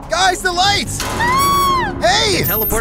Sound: scream

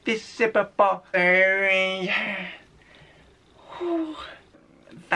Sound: exhales

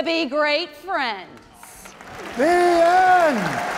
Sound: audience clapping

